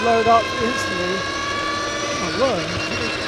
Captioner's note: engine revving